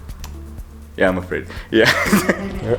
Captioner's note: laughs